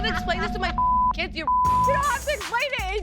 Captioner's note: beep